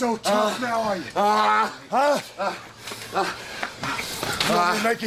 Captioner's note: Booker groans